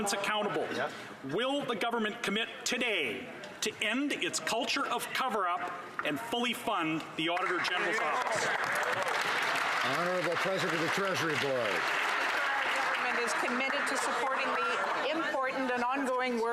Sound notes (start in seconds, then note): 12.1 some Applause